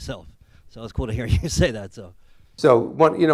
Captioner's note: laughs